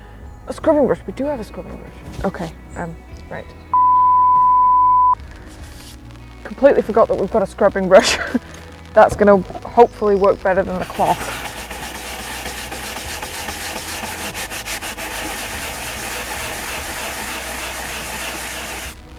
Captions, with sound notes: A scrubbing brush? We do have a scrubbing brush! Okay, right. [Loud Beep] Completely forgot that we've got a scrubbing brush. That is going to hopefully work better than the cloth. [Scrubbing Noises]